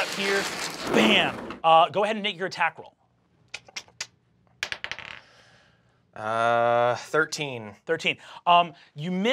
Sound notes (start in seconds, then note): 4.6 die clacks